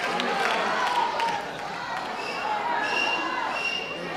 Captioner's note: crowd yelling